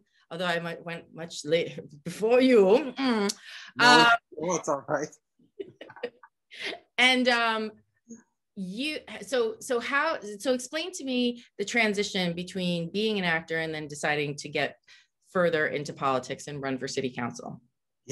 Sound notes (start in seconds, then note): 4.1 audio cuts out